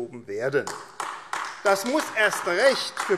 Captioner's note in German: Beifall AfD